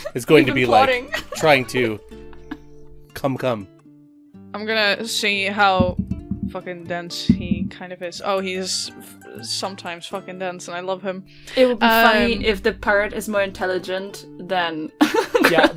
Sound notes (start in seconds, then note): 4.5 punctuated by dice thunks; 15.1 laughs